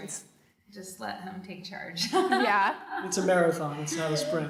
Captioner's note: laughing